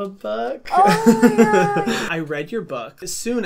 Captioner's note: chuckles